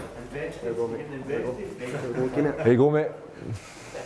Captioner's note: members chatting